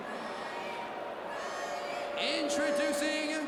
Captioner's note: crowd cheering